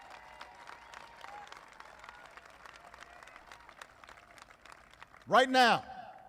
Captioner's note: applause